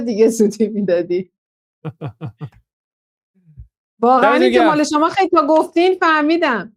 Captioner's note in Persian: خنده